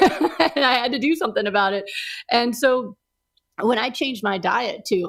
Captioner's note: laughs